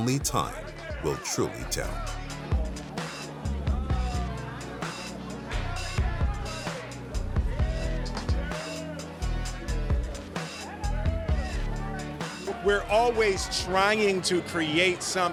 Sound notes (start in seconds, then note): 6.2 crowd yelling indistinctly; 6.2 upbeat music